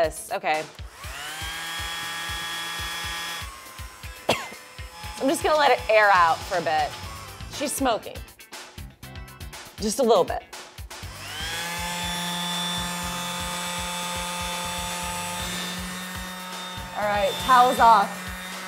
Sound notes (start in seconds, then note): 0.8 whirring; 4.2 coughing